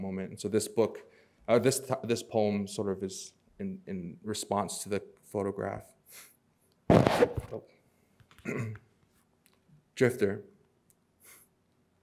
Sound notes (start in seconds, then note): 6.8 microphone scratches; 8.4 clears throat